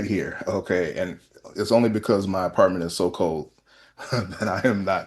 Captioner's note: laughter